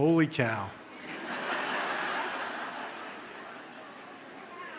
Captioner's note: audience laughs